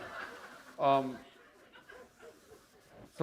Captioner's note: laughter